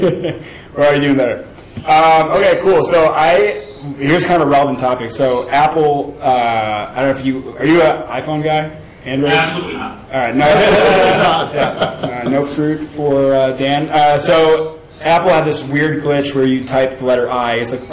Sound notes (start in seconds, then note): 10.4 laughing